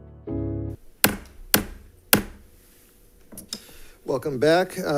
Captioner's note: gavel thudding